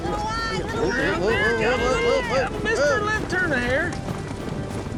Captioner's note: shouting encouragement